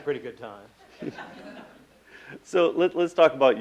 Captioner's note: laughing